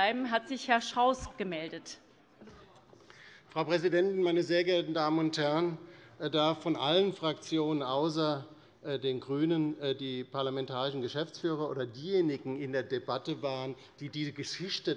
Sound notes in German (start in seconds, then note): none